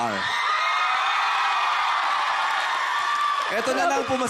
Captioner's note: crowd cheering, applauding